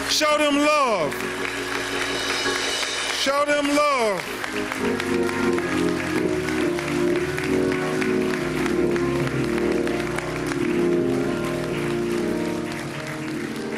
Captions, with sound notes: WILL YOU, PLEASE, GIVE HIS FAMILY ANOTHER ROUND OF APPLAUSE. [ APPLAUSE ] PLEASE, SHOW THEM LOVE.